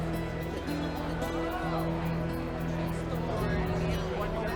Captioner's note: crowd chatting